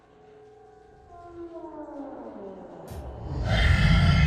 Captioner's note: door creaking; monster rasping